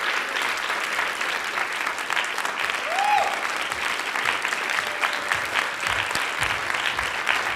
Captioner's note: applause